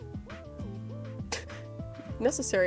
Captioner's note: laugh